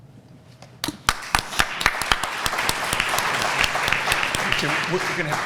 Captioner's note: applause